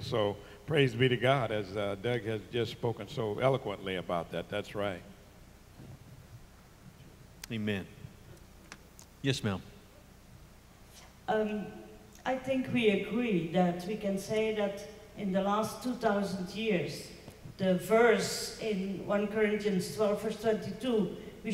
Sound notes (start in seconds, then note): 12.4 voiceover